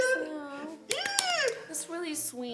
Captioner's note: squeals